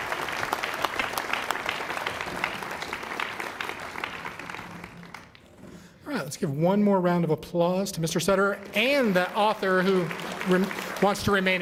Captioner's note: applause